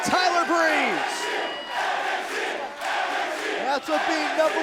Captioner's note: crowd cheering